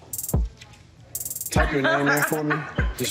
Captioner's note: laughing